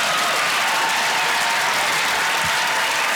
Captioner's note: applause